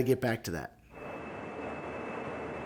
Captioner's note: jet engine